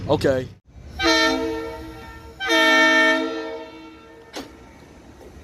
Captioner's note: train blowing the horn twice